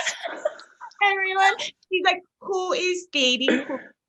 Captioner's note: all laughing